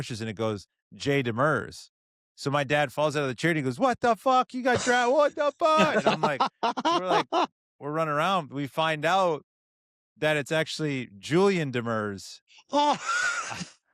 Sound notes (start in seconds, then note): 7.5 laughter; 12.8 laughs